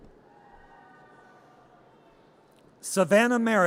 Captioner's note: audience cheers